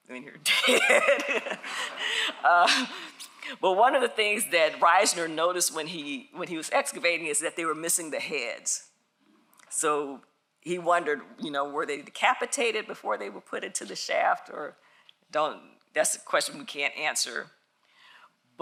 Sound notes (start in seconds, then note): 0.7 audience laughs